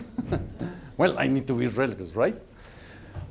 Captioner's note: laughs